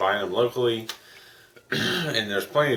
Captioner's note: clears throat